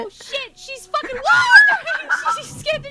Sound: screams at each other

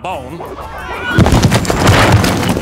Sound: meowing; hissing

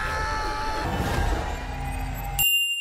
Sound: Po screams; mystical thrumming; bell rings

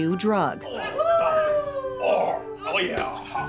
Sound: cheering

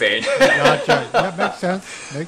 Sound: laughs

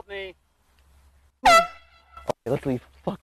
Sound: airhorn goes off

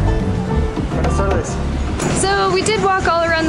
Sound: speaking in Mexican

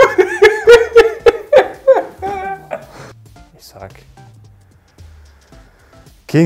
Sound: laughter

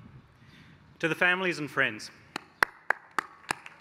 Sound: applause

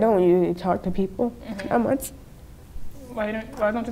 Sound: sniffling

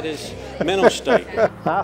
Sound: laughs

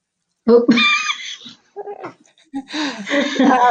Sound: laughs

